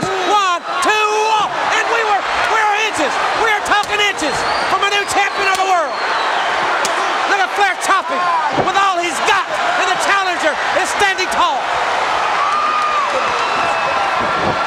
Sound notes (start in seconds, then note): 0.1 countdown thudding; 6.8 chop striking; 12.1 crowd cheering